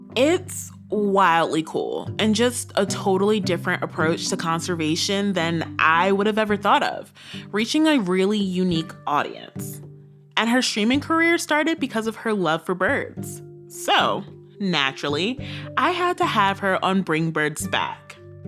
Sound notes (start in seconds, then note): none